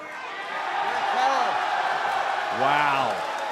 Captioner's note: cheers & applause